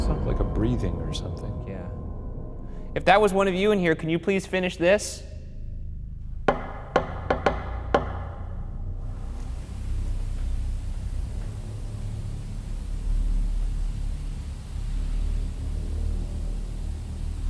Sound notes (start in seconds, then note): 6.5 knock thudding